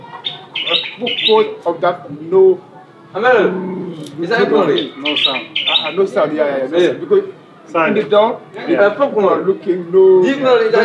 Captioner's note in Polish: rozmowa w j. angielskim